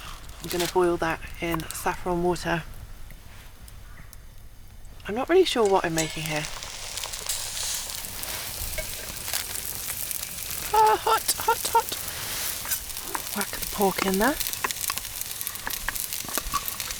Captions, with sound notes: I'm gonna boil that in saffron water I'm not really sure what I'm making here *bubbling & sizzling* ahh hot, hot, hot! whack the pork in there